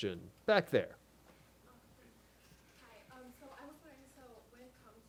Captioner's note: voiceover